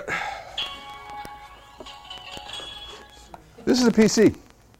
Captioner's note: dell sound